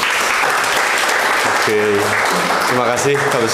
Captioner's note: applause